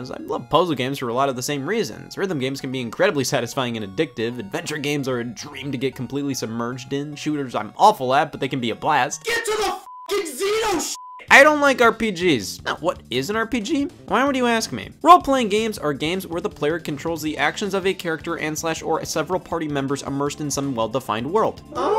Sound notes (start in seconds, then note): 9.8 beep